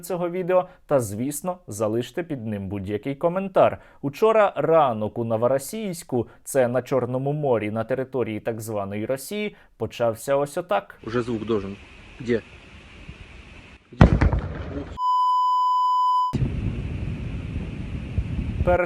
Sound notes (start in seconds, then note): 13.9 explosion